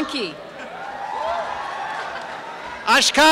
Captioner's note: cheering and applause